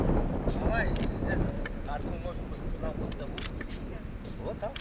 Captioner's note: man speaks Tajik